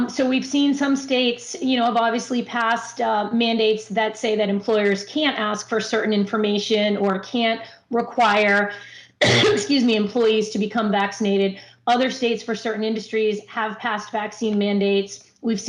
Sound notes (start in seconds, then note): 9.1 coughs